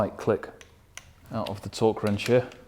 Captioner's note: wrench clicking